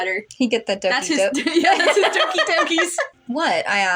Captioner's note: laugh; laughing